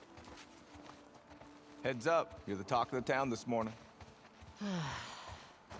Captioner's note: footsteps